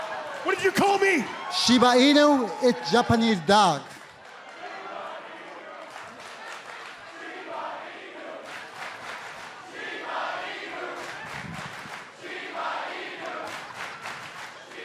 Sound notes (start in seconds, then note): 3.1 crowd cheering